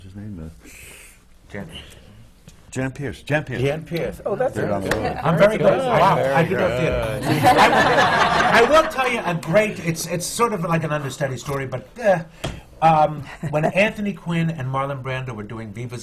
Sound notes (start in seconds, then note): 7.1 laughter